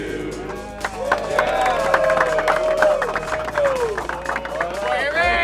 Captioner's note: cheering and applause